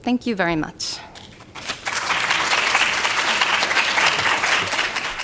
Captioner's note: applause